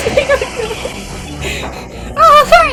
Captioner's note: laughing; hyp'rventilating